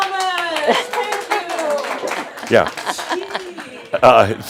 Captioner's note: shouts